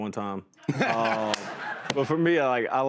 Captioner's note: laughter